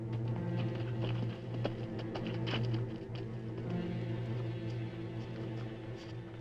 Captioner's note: dramatic music; horse hooves clopping; dramatic music